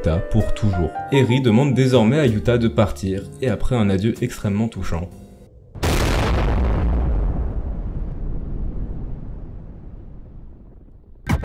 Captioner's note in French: explosion